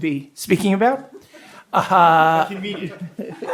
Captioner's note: people laugh